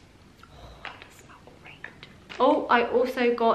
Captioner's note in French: en chuchotant